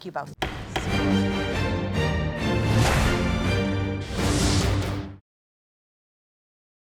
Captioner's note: judge's gavel bangs; intense music